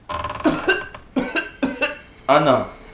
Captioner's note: severe cough